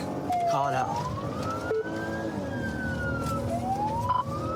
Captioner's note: siren blares